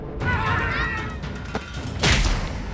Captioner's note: screams